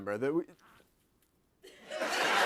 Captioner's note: no audio; laughter